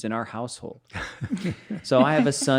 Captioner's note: laughing